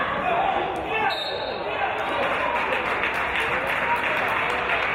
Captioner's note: referee's whistle